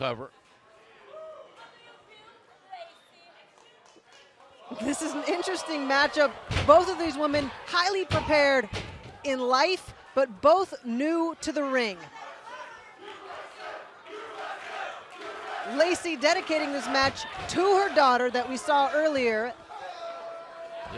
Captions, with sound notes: AND QUICKLY INTO A COVER. >> THIS IS AN INTERESTING MATCHUP. BOTH OF THESE WOMEN HIGHLY PREPARED IN LIFE, BUT BOTH NEW TO THE RING. [FANS CHANTING] LACEY INDICTING THIS MATCH TO